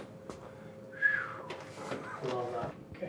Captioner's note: whistles